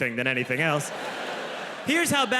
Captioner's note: audience laughs